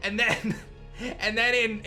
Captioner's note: chuckles